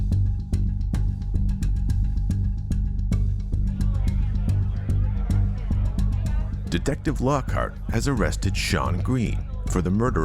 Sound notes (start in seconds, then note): 0.0 upbeat mysterious music; 3.7 people chatting